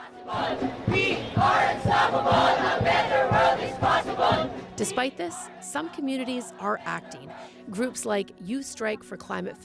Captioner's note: chanting